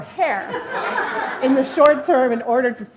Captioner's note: laughing